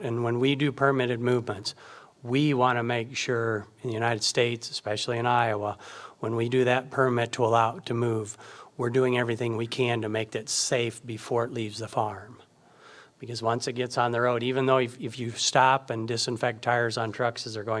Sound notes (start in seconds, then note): none